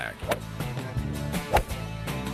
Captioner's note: golf swing